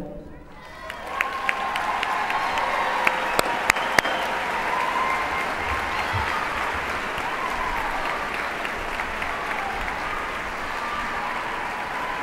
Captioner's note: applause